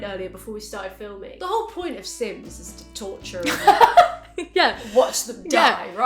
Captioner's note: laughs